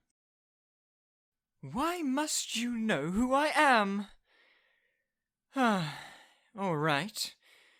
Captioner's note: sigh